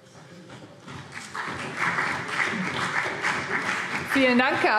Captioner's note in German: Vereinzelter Beifall CDU